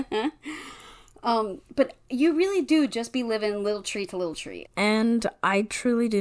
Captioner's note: laughs